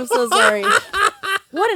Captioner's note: laughs